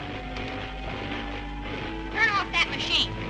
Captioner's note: dramatic music; electricity crackling